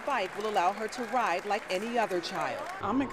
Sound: applause

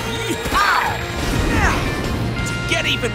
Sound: grunting

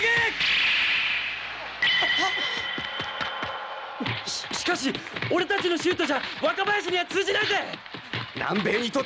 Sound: applause

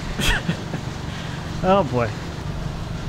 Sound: laughing

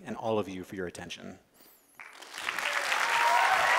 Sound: applause

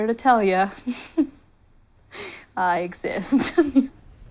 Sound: chuckling

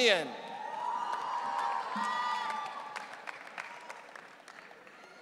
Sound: audience cheering

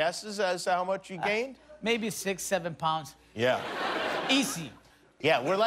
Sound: laughter

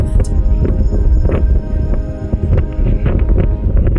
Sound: flags flapping in the wind

